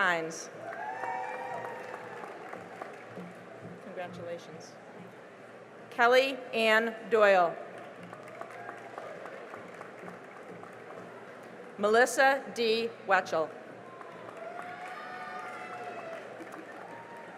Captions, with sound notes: [CHEERING AND APPLAUSE] --congratulations. Kelly Ann Doyle [CHEERING AND APPLAUSE] Melissa Dee Whelchel [CHEERING AND APPLAUSE]